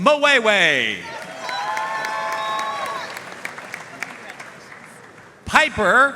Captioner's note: audience cheering and applauding